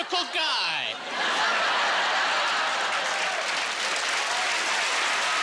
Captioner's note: cheering